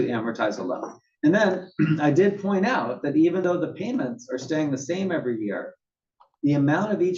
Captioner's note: cough